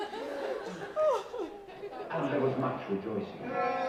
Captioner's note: laughing